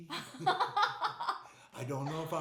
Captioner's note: laughing